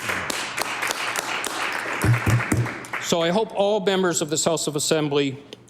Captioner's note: applause